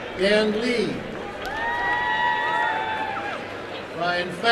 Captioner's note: applause and cheering